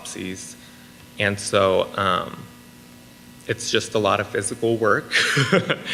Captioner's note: laughs